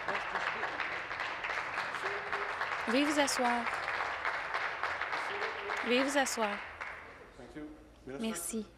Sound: applause

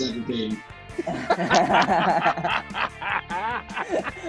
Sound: laughing

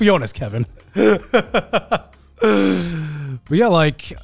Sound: chuckling

